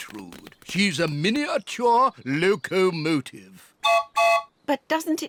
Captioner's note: toots whistle